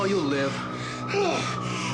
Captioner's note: sirens wailing